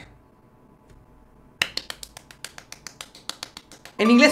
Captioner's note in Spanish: aplaudiendo